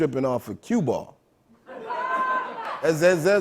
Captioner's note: laughter